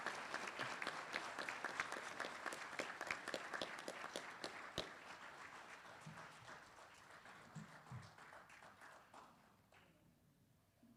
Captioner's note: applause